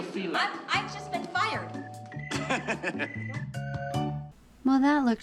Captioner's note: laughs